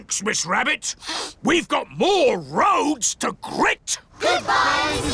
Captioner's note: sniffs